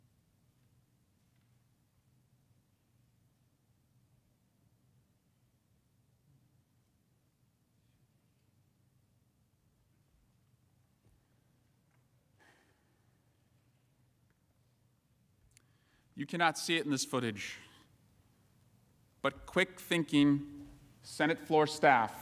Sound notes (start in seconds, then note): 6.6 silence